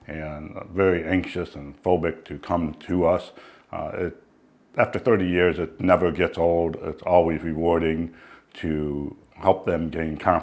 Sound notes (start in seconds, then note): none